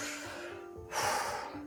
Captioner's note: exhales